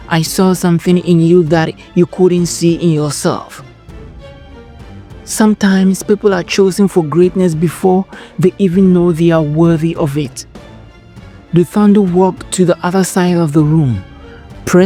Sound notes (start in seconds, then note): 5.7 narrator – Emotional, Thought-Provoking